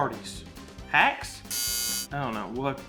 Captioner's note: buzzer resounding